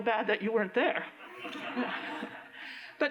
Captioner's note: laughter